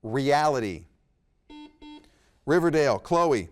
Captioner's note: buzzer beeps